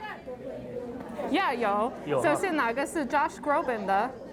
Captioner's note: speaks Chinese